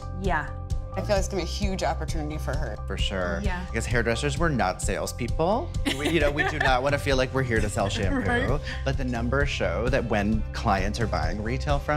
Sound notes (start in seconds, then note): 5.9 laughing